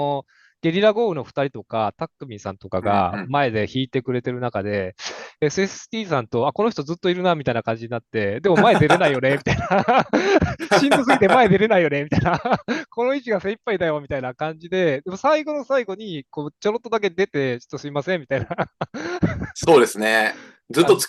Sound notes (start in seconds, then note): 8.5 laughs